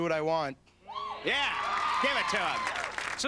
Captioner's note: audience cheers